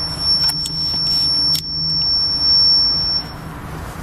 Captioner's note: clicking